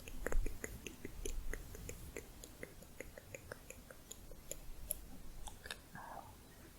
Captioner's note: tongue clicking